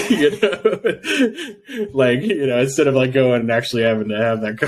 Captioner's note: laughing